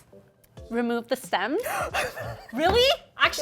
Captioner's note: speaking Japanese; gasps